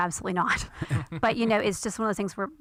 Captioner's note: laughter